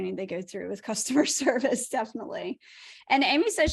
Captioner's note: laughter